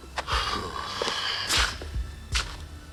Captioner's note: sighs